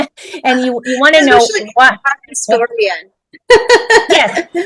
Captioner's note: laughs